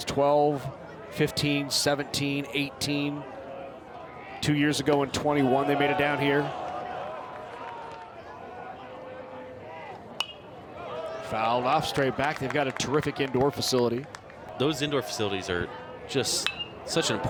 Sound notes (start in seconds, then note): 10.2 bat dings